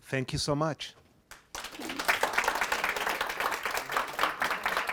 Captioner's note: applause